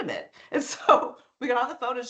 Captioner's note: chuckling